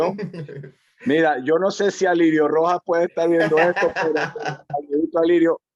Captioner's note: laugh